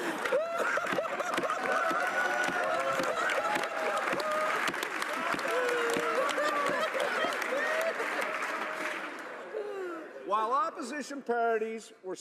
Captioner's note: laughter